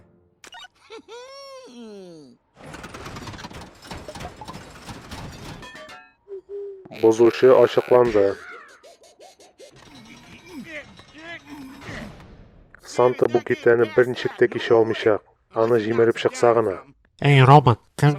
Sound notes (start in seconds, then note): 0.4 click, gigging; 6.2 hooting; 6.8 boinging; 8.0 hooting; 9.6 Bender and Hermes grunting; 9.6 wheel clicking; 11.7 clang